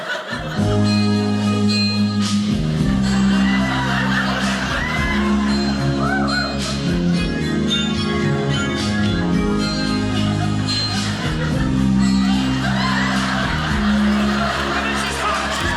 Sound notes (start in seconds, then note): 3.0 audience cheering; 12.5 audience laughing